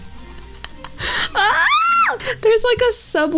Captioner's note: squeals in comedic delight